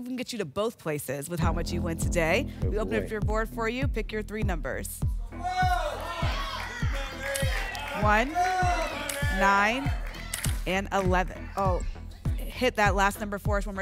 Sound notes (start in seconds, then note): 5.4 audience shouting numbers